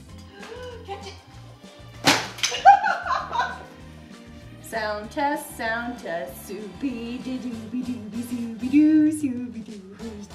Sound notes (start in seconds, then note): 0.2 lady gasping; 2.0 light thudding; 2.5 laughing; 6.3 imitating playful music